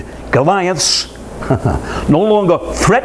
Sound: dry laughter

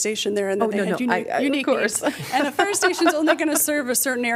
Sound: laughter

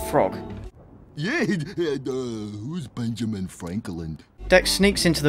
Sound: idiot noises

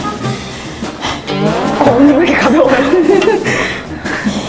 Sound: swoosh

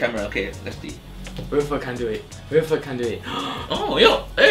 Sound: gasps

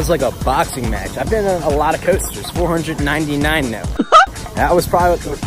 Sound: Mickey Mouse laugh

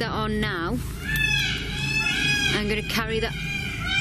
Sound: peacocks squawking

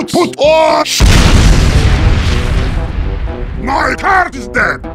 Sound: Heavy's car explodes

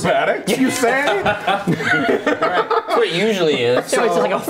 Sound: laughing

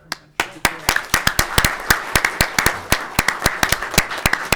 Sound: all clapping

